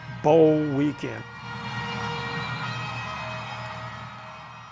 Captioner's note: crowd cheers and horn fanfare